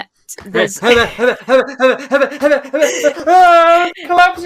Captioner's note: yells